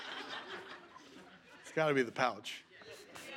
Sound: laughter

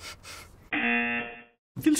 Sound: buzzer

